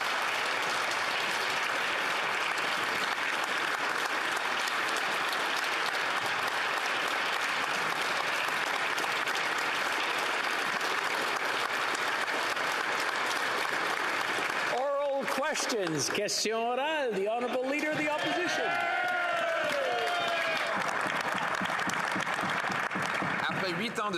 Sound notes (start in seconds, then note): 3.6 some Applause